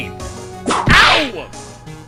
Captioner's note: whip crack!